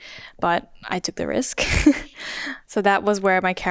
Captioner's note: chuckles